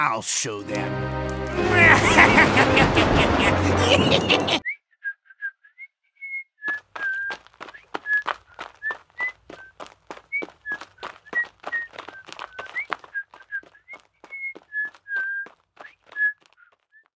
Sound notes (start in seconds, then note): 1.6 evil laughter; 4.1 whistling